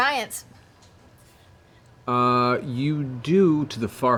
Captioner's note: none